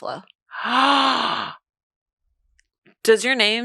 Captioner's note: speaks foreign language; gasps